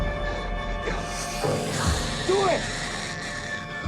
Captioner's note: Sinclair panting; eerie music; Mya snarling